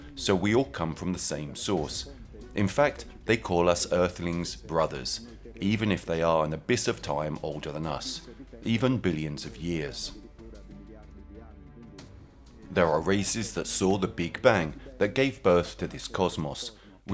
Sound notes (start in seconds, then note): 9.8 dramatic music continues; 10.4 speaking in foreign language